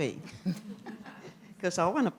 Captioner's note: laughter